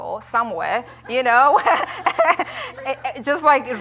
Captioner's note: laughter